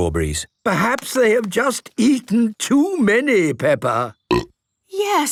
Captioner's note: burp